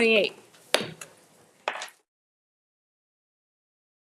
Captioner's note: gavel thumping